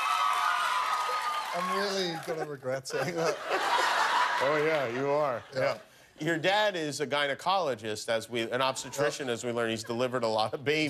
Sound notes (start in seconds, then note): 0.0 cheers and applause; 2.2 laughter